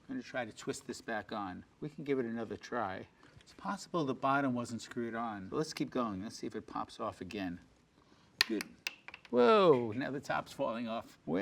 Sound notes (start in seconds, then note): 8.4 part clattering